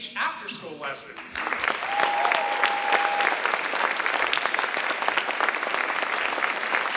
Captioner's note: audience cheering and applauding